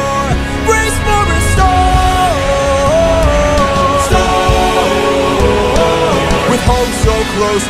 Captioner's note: storm